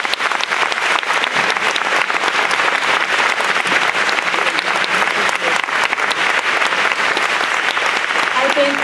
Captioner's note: applause